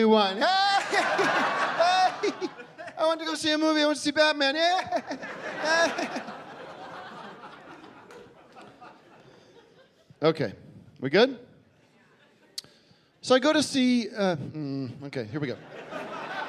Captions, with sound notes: [laughing] I went to go see a movie, I went to see "Batman." [mockingly laughing] Okay, we good? So I go to see... Hmm, okay, here we go.